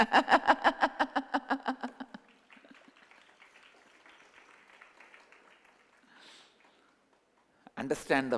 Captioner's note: signature laugh J